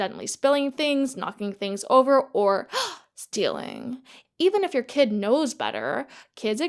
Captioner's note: gasp